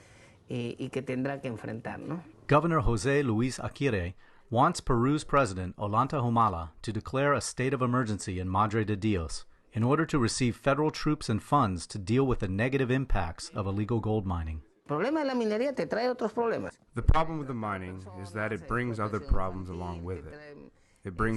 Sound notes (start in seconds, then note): 15.5 through translator